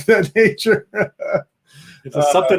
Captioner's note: laughing